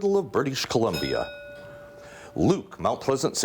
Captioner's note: bell rings